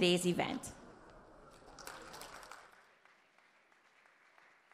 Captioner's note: audience applause